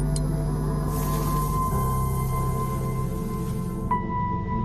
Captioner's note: sizzles; laser hum; sizzle